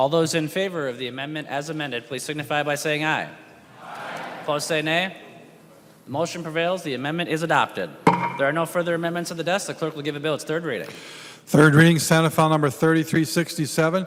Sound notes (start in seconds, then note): 7.9 chorus of ayes